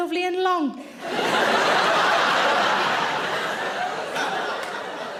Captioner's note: audience laughing